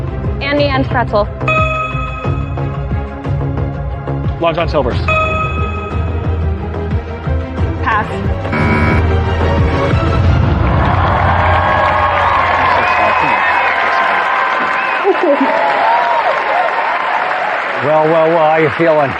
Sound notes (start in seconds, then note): 8.4 buzzer sounds